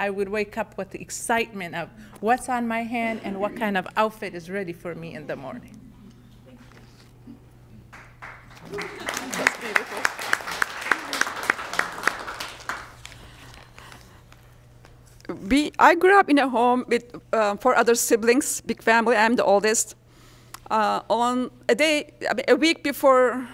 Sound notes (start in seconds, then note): 7.9 applause